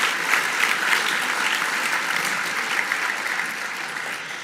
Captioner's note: audience applause